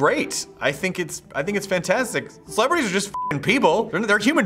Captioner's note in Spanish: pitido